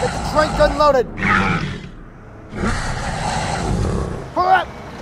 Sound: metriacanthosaurus Sounds

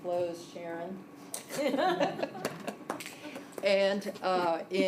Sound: laughter

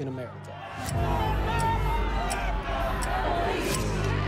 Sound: group chanting

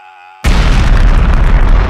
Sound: boom

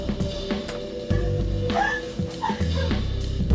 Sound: laughter

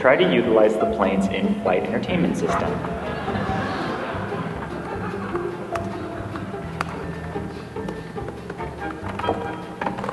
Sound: laughter

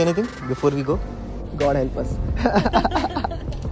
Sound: laughs

